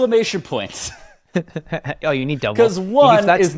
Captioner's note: laughs